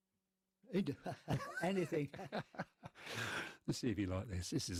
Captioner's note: laughing